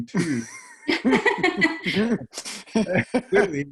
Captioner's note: laughing